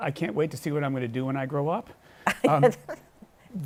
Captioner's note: laughs